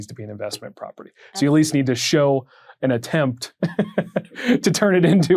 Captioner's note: chuckles